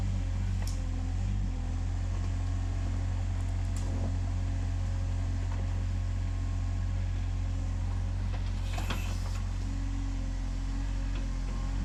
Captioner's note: machinery whirring